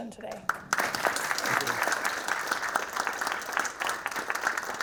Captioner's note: audience applauding